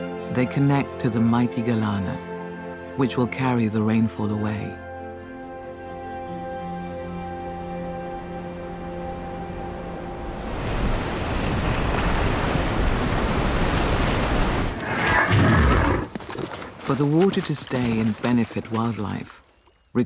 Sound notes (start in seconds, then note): 10.3 water crashing; 14.7 elephant snorts